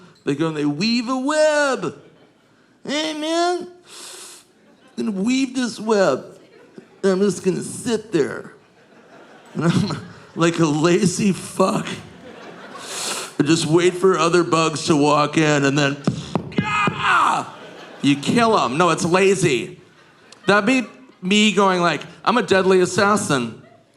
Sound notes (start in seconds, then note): 3.8 inhales; 12.7 inhales